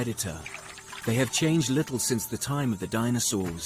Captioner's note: insects buzzing